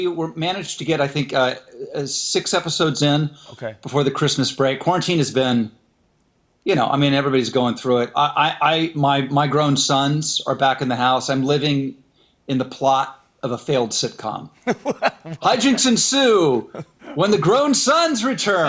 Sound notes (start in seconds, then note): 14.6 laughs